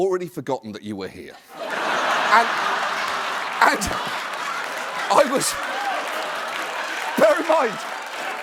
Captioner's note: laughter